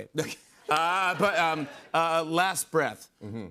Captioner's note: laughter